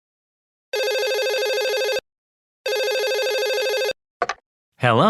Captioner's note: telephone rings